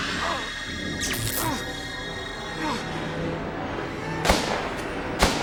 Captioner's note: electrical zinging; gun bangs; tense music